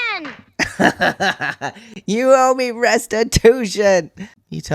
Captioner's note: laughter